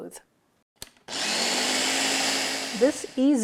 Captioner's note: blender whirs